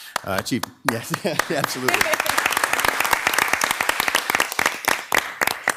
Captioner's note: participants clapping